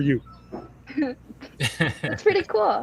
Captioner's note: laugh